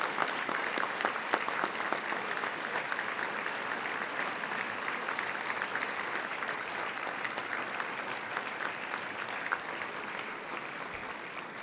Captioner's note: applause